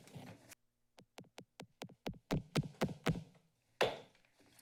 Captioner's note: gavel taps